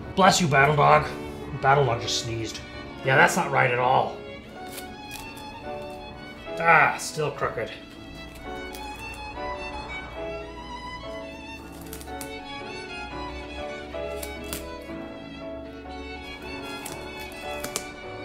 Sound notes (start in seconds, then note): 4.4 classical music plays; 8.1 classical music plays; 11.5 sounds of tape being fiddled